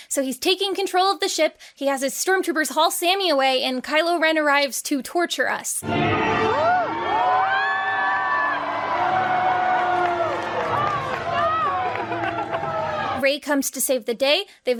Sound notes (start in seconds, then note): 5.8 villainous music; 5.8 crowd cheering